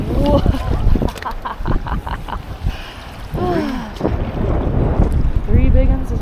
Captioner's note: laughing